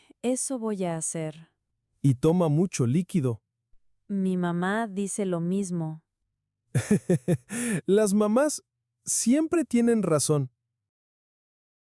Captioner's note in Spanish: risas